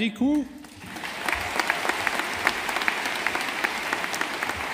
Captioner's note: audience applauding